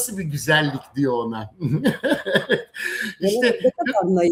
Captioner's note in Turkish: kahkaha